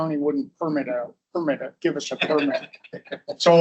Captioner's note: audience laughs